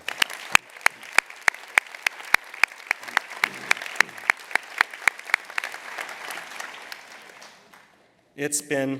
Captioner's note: applause